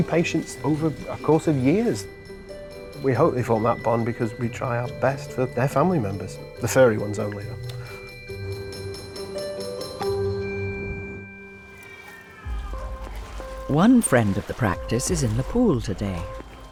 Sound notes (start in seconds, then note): 8.9 calm music; 13.2 Siam meows